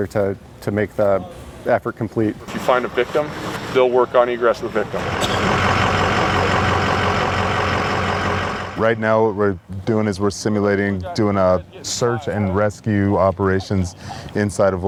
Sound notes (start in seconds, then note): 5.5 truck motor roaring